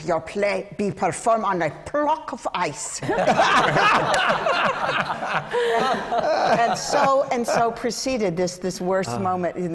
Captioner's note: laughter